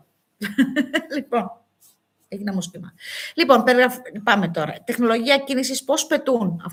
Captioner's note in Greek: γέλια